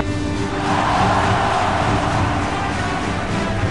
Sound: cheering

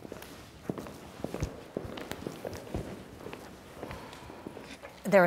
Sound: footfalls thud loudly

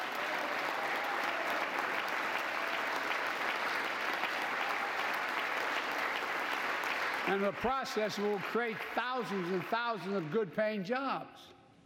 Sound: applause

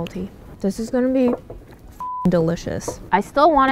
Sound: beep

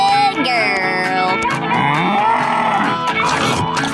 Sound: mooing; scarfing

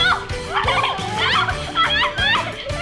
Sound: chuckled

